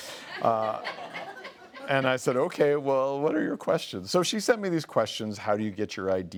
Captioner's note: laughing